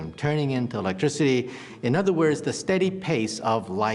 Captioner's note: none